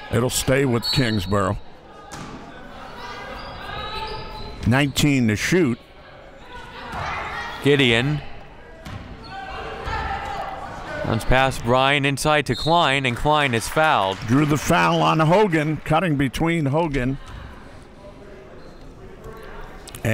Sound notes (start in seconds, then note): 0.7 referee blows whistle; 5.6 crowd murmuring; 9.0 crowd murmuring; 12.5 referee blows whistle; 12.9 crowd clapping